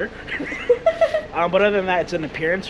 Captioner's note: chuckles